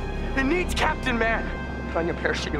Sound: none

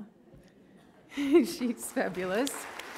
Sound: audience laughs; audience applauds

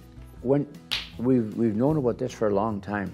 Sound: claps

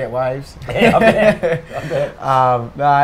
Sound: laughs

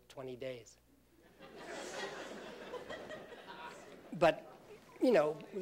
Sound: laughter

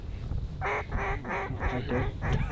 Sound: calling ducks

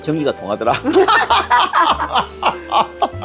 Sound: both laughing

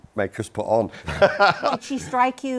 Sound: laughs

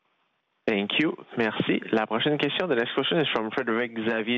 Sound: speaking French

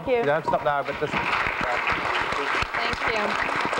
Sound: applause

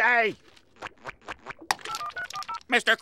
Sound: dialing

